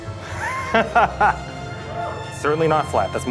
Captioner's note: chuckling